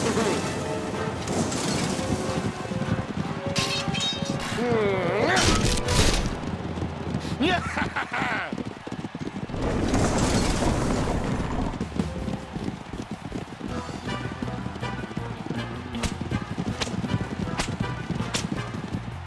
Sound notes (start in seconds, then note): 3.0 suspenseful music; 7.3 triumphant chuckles; 11.1 distant applause; 16.8 whipping noise